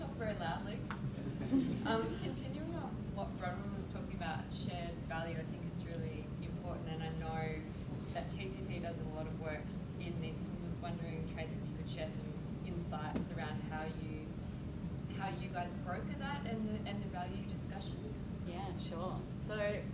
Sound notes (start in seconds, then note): 1.2 quiet laughter